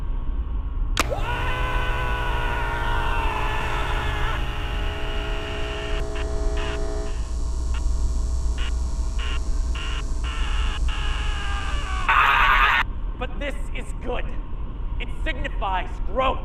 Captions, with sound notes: (man screaming) (shaver buzzing) But this is good it signifies growth.